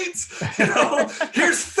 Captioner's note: laughing